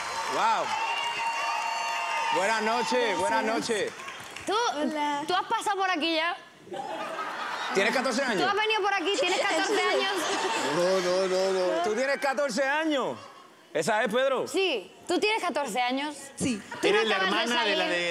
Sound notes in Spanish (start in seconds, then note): 6.7 risas